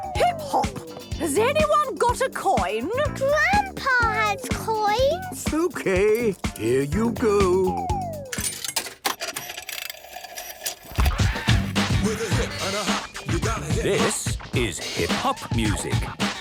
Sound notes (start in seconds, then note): 8.3 clicks, whirring; 11.0 hip hop music plays